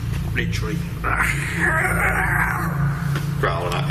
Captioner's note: growls